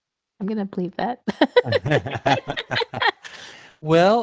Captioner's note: laughter